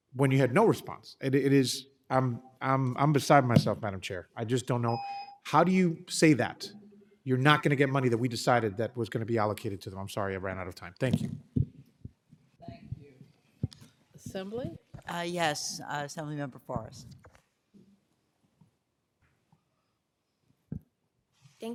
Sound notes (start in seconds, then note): 4.8 timer tone